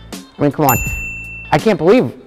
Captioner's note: bell ding